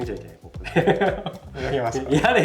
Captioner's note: laughs